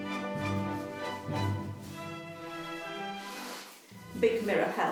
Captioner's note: laces shuffling